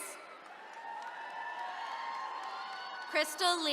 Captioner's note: attendees cheering